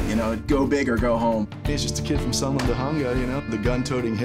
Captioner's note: murmuring